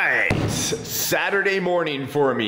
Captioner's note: box thuds